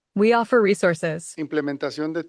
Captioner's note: non-english speech